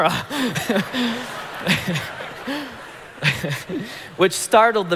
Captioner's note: congregation laughing